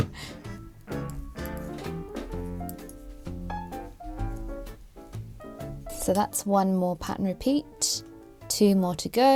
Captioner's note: needles clicking